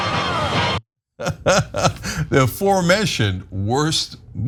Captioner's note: laugh